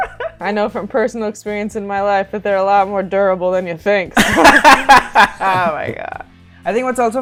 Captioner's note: laughter; laughter